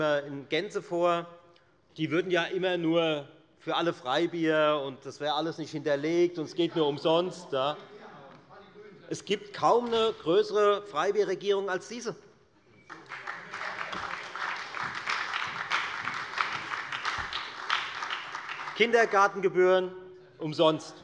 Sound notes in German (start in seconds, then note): 12.8 Beifall bei der FDP und der SPD